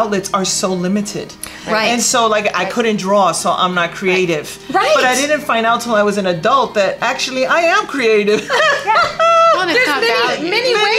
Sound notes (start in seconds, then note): 8.4 laughing